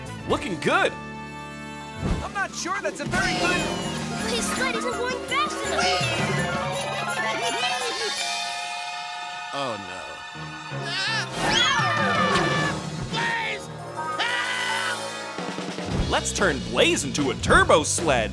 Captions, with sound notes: Looking good. I'm not sure that's a very good-- - His sled isn't going fast enough. - Wee! Oh, no. [screaming] Blaze, help! Let's turn Blaze into a turbo sled